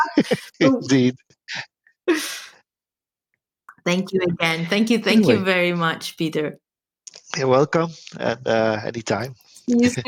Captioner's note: both are laughing